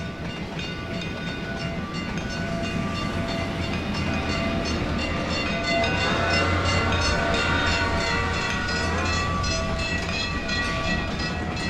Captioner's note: railroad crossing bell